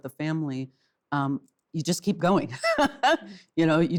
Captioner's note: laughs